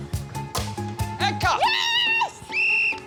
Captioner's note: blows whistle